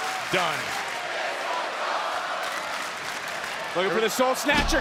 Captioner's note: crowd chanting